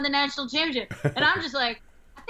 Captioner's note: chuckle